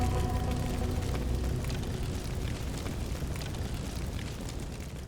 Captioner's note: fire Crackling